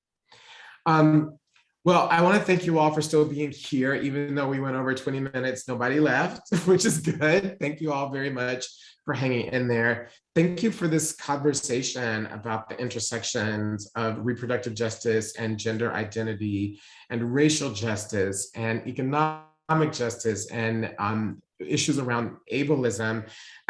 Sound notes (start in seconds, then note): 6.5 laughs